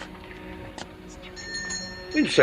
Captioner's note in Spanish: Suena la campana